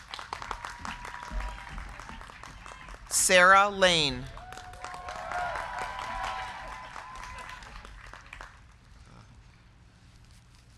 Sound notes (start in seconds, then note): 0.0 crowd clapping; 0.1 crowd cheering; 4.6 crowd clapping